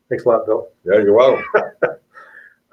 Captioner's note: laughs